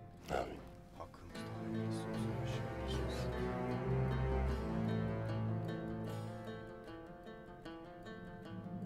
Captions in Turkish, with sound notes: Âmin. (Konuşma sesleri) -Hakkımızda hayırlısı olsun inşallah.